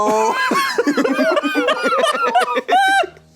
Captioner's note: laughs